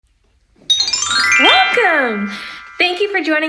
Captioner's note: chime flourish